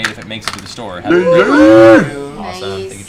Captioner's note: cheering